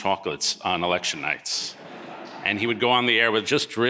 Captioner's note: audience laughing